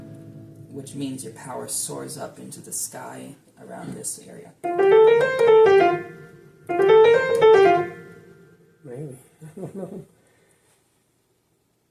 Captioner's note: chuckles